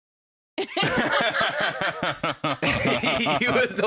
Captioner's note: all laughing